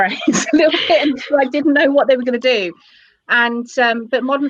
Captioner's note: laughter